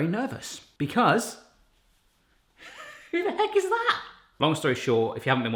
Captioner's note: laughs